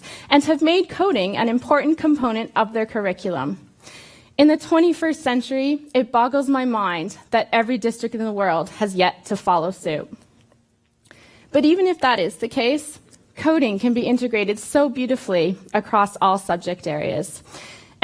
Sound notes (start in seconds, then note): none